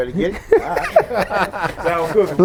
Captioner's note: laughing